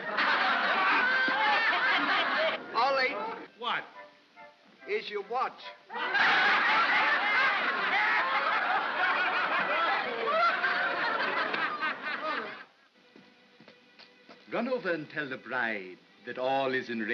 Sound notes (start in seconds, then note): 0.0 crowd laughs; 5.9 crowd laughs